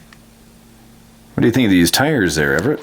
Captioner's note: voiceover